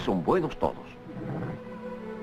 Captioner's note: horse whinnies